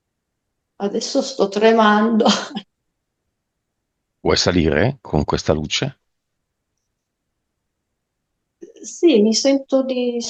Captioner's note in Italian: risate